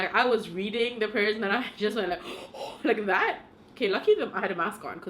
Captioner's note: breathes heavily